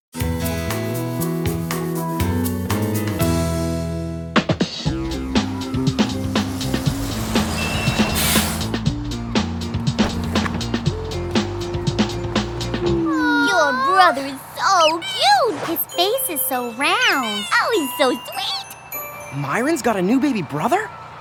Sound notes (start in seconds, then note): 5.7 bus brakes squeal